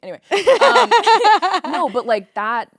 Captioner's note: both laughing